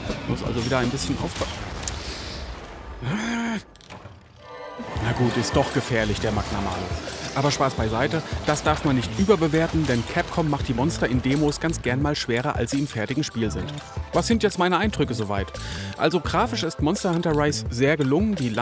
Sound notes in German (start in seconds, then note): 3.0 Genervter Laut